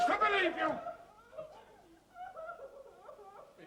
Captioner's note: she sobs